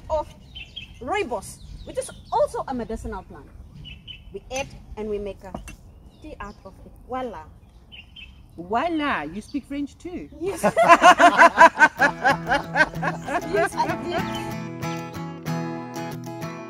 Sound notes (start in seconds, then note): 10.4 all laughing